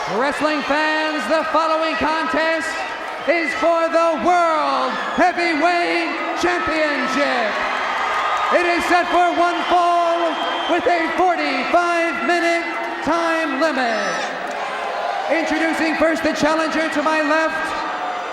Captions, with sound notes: Wrestling fans, the following contest is for the World Heavyweight Championship! (crowd cheers) It's set for one fall with a 45 minute time limit. Introducing first, the challenger to my left.